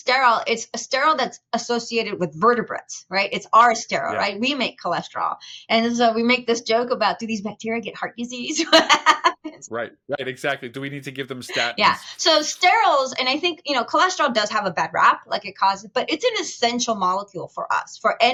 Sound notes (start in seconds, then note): 8.6 laughing